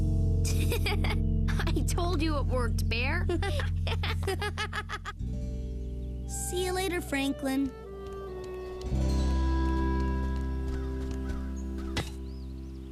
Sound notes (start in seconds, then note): 3.2 giggle; 3.3 laugh